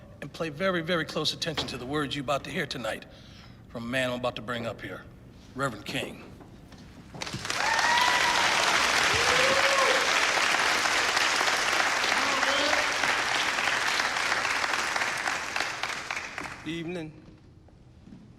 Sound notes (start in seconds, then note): 7.2 cheers and applause